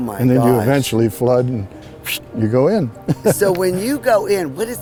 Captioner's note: whistles